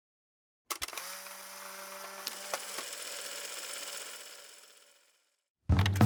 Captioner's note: film reel whirs; upbeat music